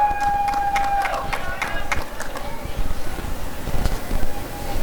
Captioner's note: applause and cheering